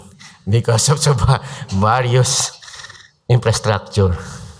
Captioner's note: laughs